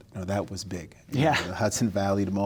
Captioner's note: laughter